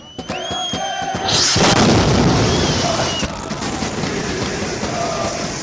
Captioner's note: celebratory cheering and singing; sound of explosions